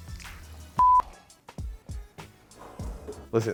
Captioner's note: beep